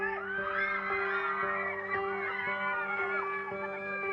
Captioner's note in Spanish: Gritos